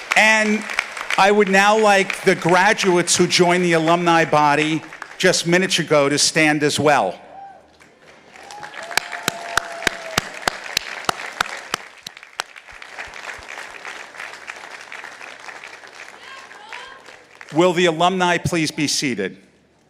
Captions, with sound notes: And I would now like the graduates who joined the alumni body just minutes ago to stand as well. (audience applauding) Will the alumni please be seated?